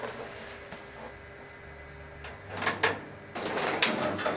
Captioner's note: clanking